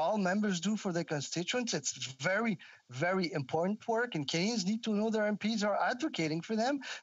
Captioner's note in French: voix de l'interprète